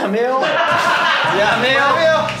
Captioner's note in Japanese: 笑い